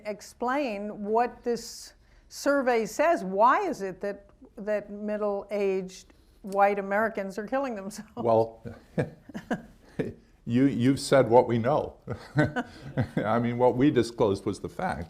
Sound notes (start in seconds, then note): 8.6 laughs; 12.0 laughs